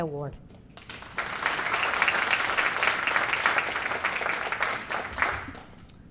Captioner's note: applause